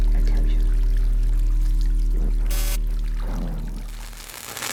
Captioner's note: static